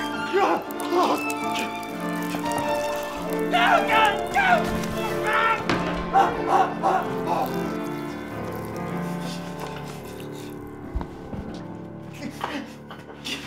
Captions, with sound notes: *choking* *gargling* Oh god! No! Augh! *Nathan panting*